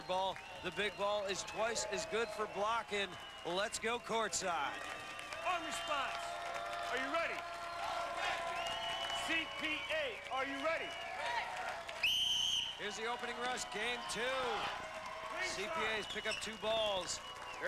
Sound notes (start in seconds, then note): 6.5 cheers; 10.5 cheers; 11.9 whistle blows